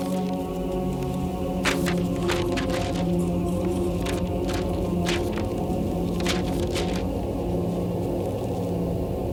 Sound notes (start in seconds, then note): 0.3 tense music; 1.5 pages flapping